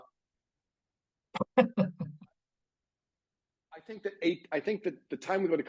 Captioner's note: laughing